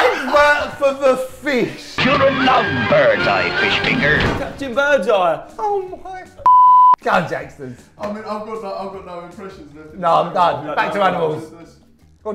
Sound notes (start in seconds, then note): 6.4 beep